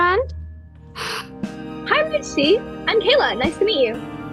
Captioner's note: lucy inhales